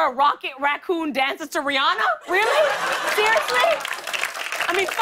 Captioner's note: laughter and applause